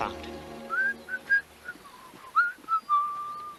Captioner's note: whistling happily